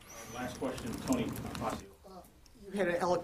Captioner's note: speaking off mic